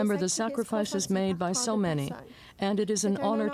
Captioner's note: speaking French